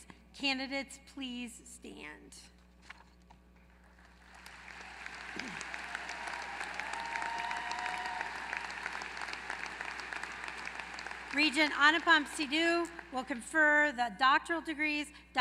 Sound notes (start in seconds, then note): 3.8 applause